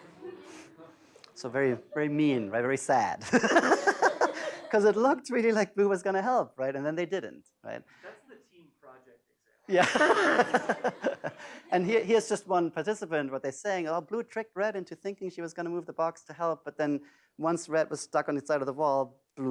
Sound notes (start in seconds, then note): 3.3 laughs; 9.7 laughs